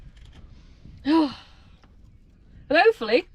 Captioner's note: sigh